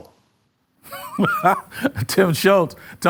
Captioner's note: laughs